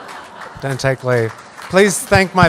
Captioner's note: laughs